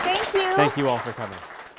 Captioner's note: audience applauding